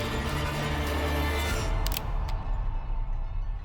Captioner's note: gun cocking